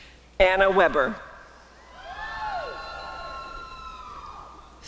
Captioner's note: applause and cheering